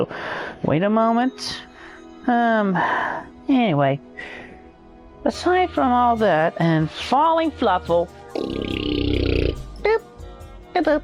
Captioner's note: blows raspberry